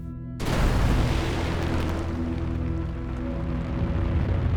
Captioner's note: explosion booms